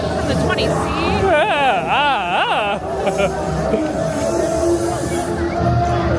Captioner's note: chuckles